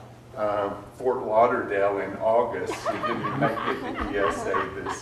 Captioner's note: audience laughs